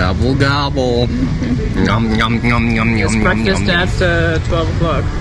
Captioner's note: eating sounds